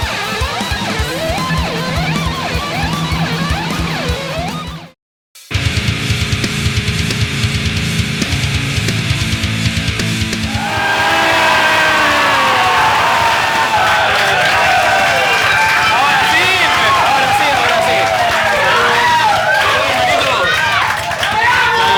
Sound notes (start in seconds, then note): 10.6 screams and applause